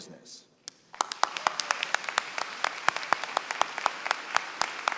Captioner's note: applause